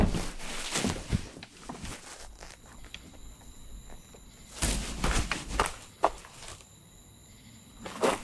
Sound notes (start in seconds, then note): 1.8 crickets chirping